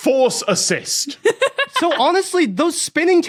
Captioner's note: laughs